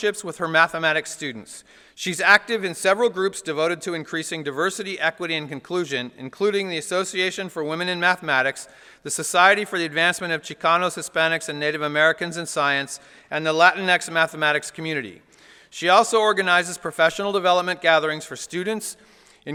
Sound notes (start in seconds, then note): none